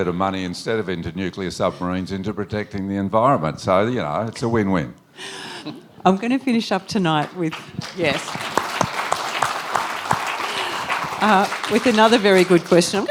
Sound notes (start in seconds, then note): 7.1 applause